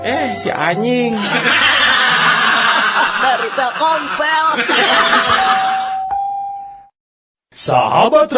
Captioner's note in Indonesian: tertawa